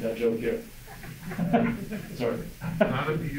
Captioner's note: crowd laughing